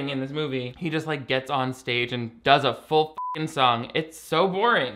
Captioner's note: beep